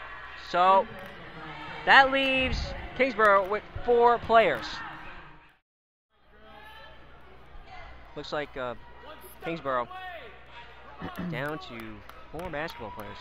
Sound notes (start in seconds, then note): 4.9 crowd talking